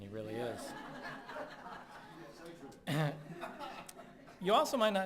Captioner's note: laughing